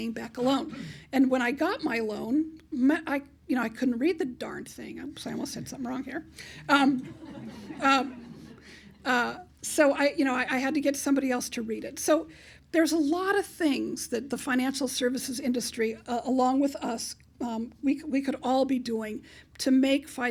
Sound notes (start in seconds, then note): 7.0 laughter